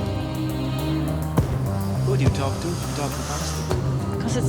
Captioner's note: voices echo in the distance